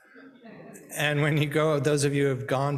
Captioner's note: people chuckling